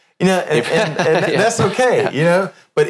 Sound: laughs

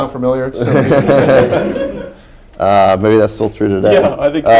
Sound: laughter

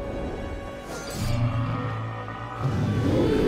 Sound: Themberchaud groaning

